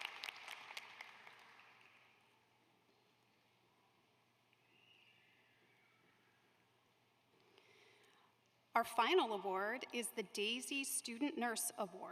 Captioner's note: applause